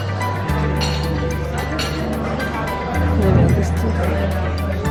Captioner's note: people chattering